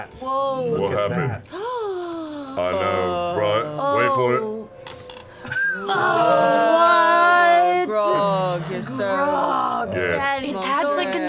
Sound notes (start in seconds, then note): 1.5 gasps; 5.5 laughs